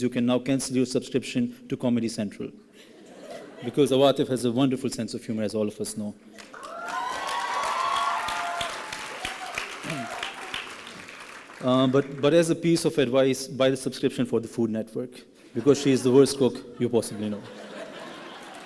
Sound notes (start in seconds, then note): 9.3 applause and cheering